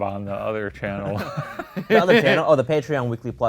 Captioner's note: laughing